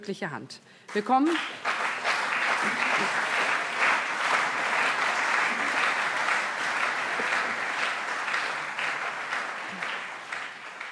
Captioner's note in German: Beifall CDU und SPD